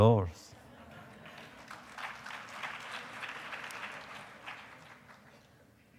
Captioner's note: applause